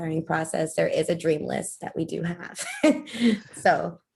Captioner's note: laughter